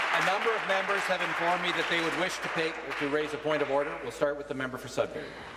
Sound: applause

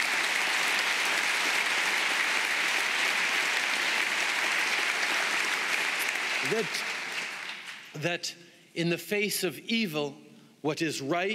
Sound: applause

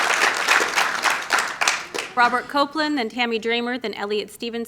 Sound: applause

